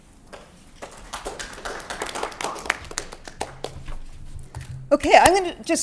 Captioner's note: applause